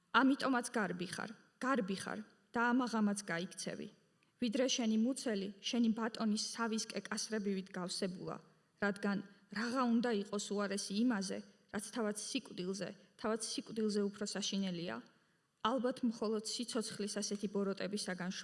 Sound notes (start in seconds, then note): 0.5 speaking in Georgian